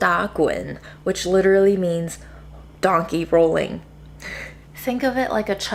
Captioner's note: laughs